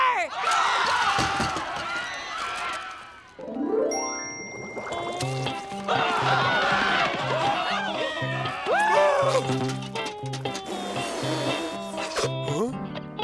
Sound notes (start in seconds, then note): 0.0 screaming; 5.8 screaming